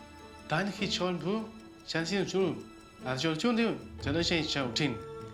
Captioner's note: talking in chinese